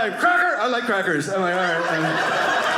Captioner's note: audience laughing